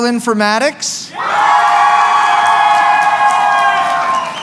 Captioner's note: cheering